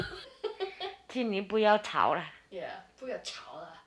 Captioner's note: speaking Chinese